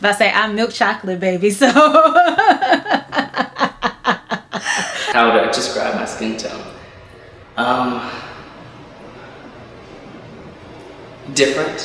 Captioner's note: laughter